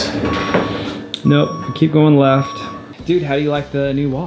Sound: back up beeping

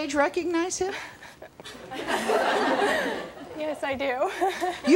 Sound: laughing

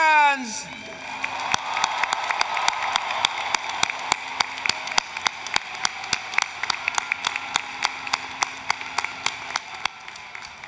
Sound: applause, Cheering

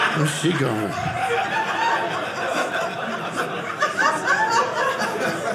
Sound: audience laughing

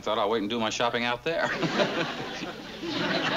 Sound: laughs

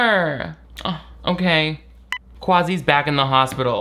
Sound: phone beeps

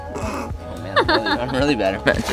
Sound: laughing

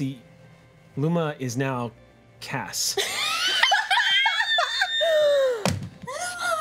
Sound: group laughs

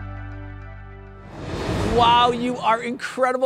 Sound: air whooshing

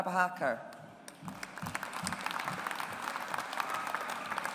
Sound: audience applauds

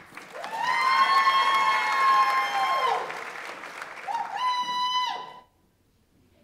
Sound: audience applauds; audience members cheer

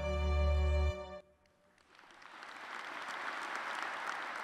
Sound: applause

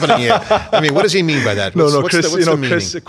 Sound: laughing

